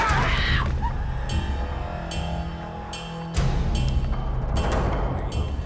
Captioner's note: crying